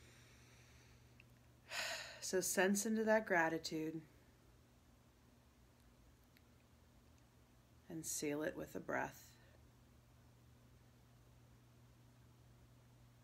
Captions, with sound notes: (inhaling) (exhaling) So, sense into that gratitude and seal it with a breath.